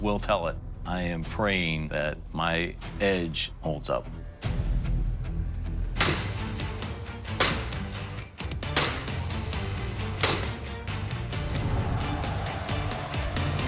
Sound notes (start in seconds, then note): 5.5 blade chopping